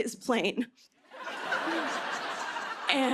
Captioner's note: laughter